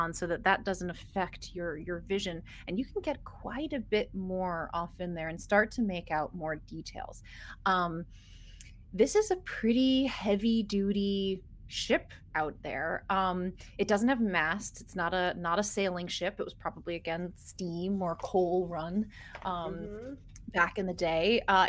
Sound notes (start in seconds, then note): none